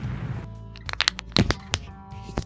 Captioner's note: Bone Cracking sound